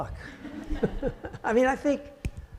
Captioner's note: audience laughing